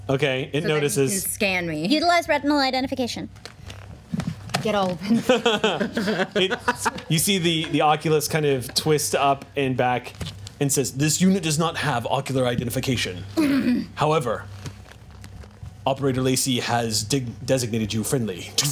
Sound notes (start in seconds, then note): 5.0 group laughs